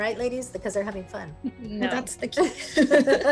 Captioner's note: laughter